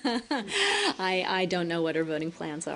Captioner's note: laughter